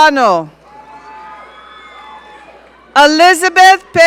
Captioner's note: audience cheering